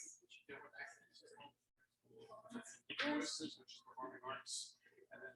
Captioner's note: people chattering indistinctly